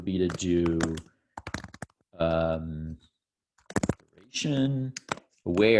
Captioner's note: keyboard typing